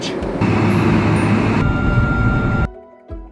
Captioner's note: engine roaring; soft music